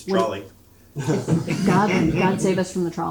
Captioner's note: audience laughing